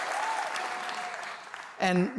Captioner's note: applause